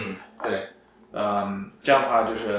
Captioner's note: nonverbal grunt as interjection